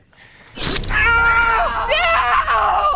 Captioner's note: Liam cries out